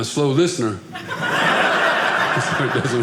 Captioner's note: audience laughing